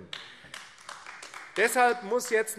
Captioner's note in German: Beifall AfD